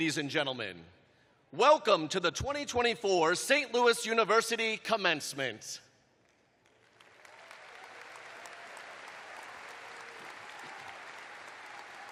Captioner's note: applause